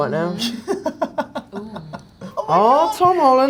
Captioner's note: Jacob laughs